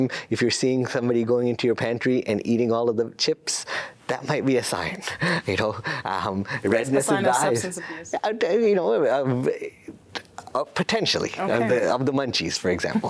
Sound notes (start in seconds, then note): 5.0 laughs; 12.9 laughs